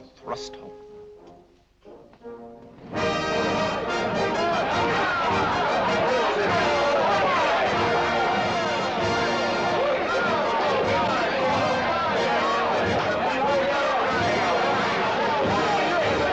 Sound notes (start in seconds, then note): 2.8 tumultuous celebration